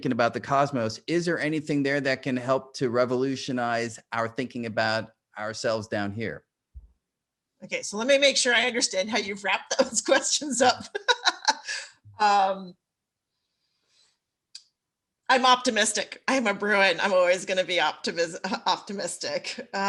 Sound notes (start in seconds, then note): 10.6 laughs